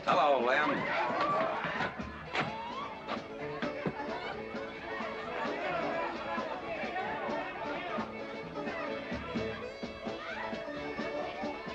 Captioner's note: crowd chattering; saloon music in distance